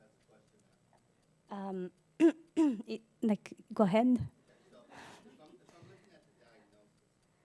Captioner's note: cough